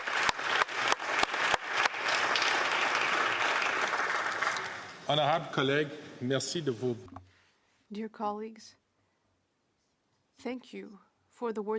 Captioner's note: applause